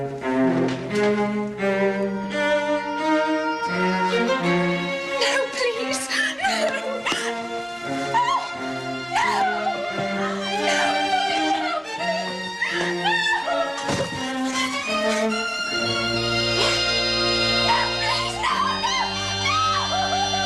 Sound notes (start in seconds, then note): 16.6 gasps